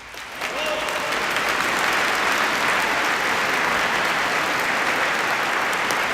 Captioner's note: applauses